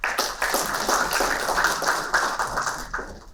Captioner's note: applauding